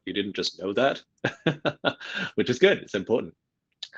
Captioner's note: laughs